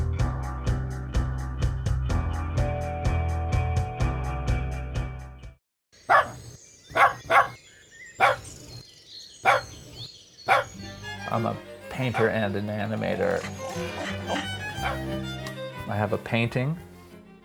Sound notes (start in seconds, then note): 5.2 even-paced rock music; 10.4 dog barking; 15.4 upbeat violin music